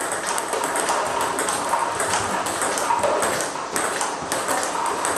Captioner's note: ball ping pong hitting continues